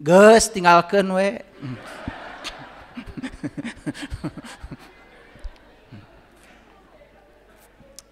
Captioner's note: laughs